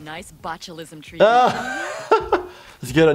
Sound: laughing

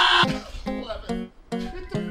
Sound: screams in pain and agony; quietly

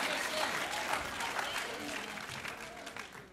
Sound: applause

